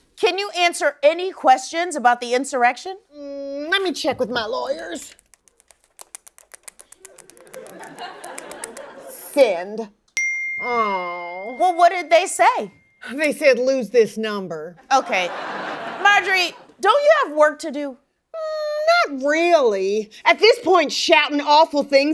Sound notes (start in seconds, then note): 10.2 ding